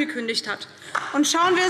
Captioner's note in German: Beifall DIE LINKE